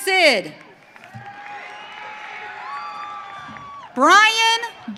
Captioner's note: audience cheering